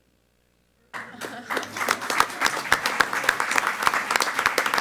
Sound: all applaud

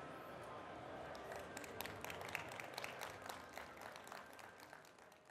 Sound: audience applauding

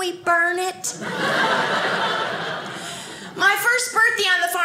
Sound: audience laughing

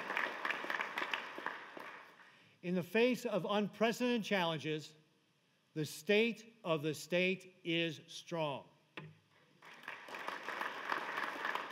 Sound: applause

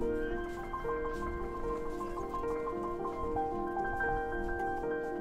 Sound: footsteps crunching

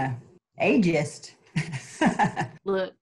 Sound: laughter

